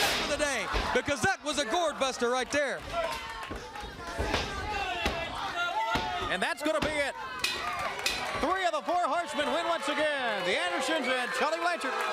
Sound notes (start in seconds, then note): 3.3 crowd chatter; 8.7 bell ringing